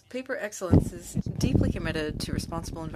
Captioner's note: speaking French